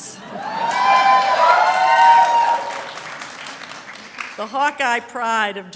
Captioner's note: audience hollering and applause